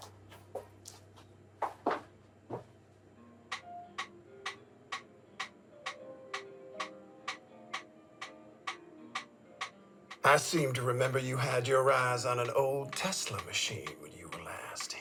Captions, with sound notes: (gentle music) (metronome clicking) I seem to remember you had your eyes on an old Tesla machine when you were last here.